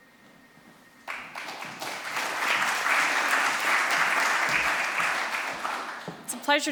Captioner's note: applause